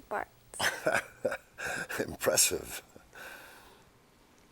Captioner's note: chuckles